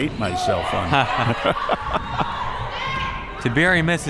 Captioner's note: both laughs